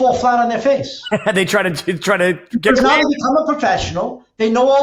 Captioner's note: laughs